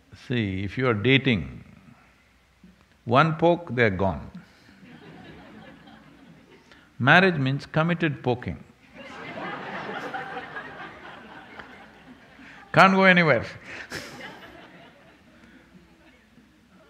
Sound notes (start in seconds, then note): 8.9 laughter